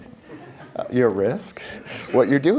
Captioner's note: laughter